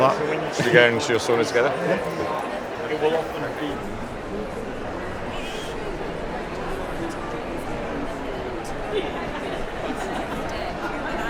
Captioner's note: laughs